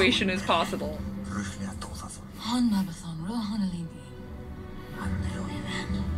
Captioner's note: speaking Elvish